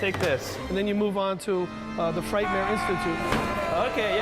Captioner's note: yelling